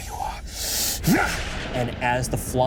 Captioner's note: Matrice shouts